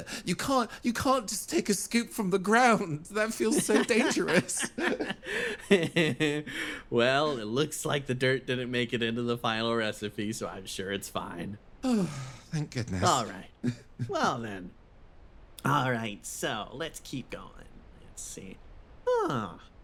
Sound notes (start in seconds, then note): 4.9 laughing; 11.8 sigh